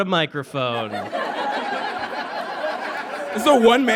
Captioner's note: audience laughs